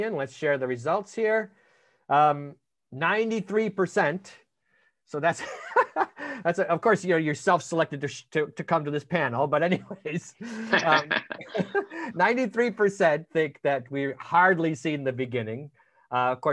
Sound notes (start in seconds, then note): 3.4 laughing; 9.8 all laughing